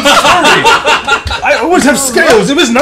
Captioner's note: laughter